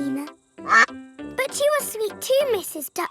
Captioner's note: quacks